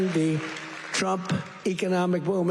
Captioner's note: applause